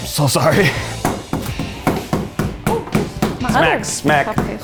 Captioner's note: rolling pin pounding